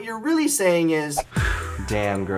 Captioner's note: exhales